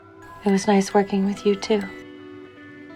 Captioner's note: voiceover